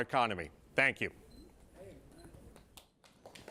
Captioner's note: scattered applause